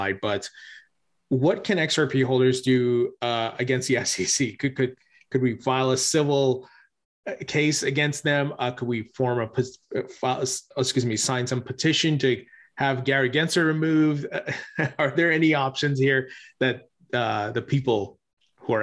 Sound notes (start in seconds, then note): 14.2 chuckles